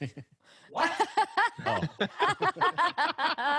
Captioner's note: laughter